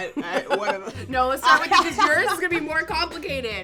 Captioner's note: laughs